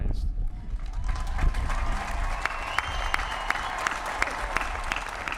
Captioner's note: applause